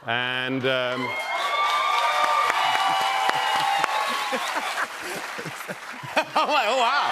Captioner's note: cheers and applause